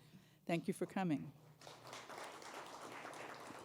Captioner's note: applause